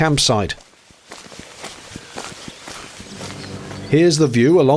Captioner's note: footsteps on gravel